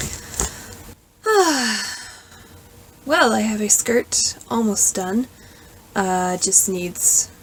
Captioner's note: sigh